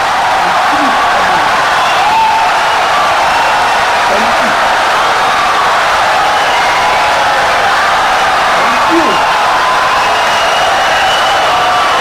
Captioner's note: wild applause and cheering for 17 seconds